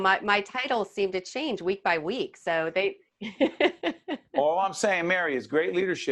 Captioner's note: laughing